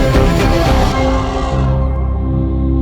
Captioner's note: uplifting music; elephant trumpeting